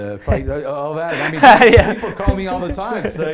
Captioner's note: laughs